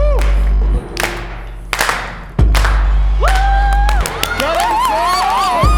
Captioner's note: cheers and applause